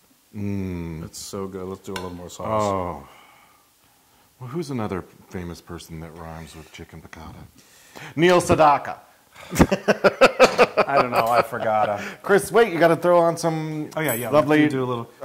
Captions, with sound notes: >> That's so good, let's do a little more sauce. >> Well who's another famous person that rhymes with chicken piccata? Neil Sedaka. [LAUGH] >> I don't know, I forgotta. >> Chris, wait. You gotta throw on some lovely. >> Yeah, yeah we can do a little.